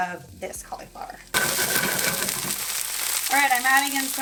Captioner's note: pan sizzling